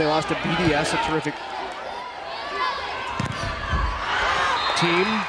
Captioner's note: crowd cheering